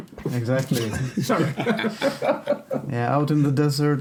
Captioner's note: laughing